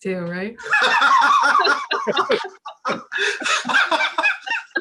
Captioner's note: both laugh